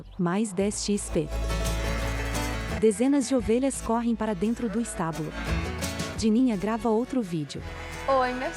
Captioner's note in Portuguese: Balidos